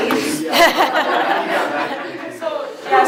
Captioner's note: laughter